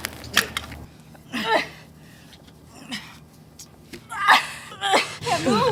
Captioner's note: grunting